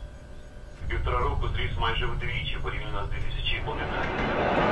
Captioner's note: radio